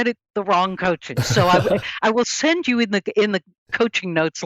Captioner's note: laughs